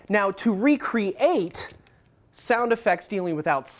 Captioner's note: none